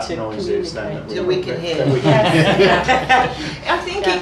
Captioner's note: laughing